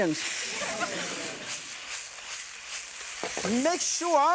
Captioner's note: laughter